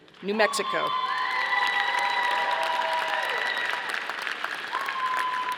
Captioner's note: audience applauding